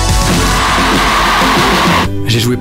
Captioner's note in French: cris du public